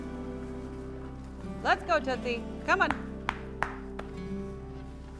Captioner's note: clapping